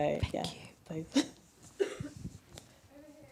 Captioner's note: chuckle